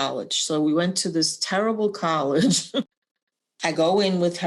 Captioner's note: laughter